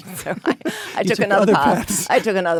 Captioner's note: Anna and David laugh